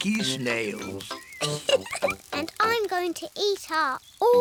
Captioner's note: laughs